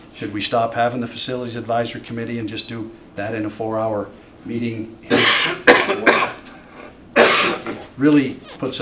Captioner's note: cough; clears throat